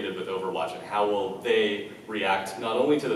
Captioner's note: none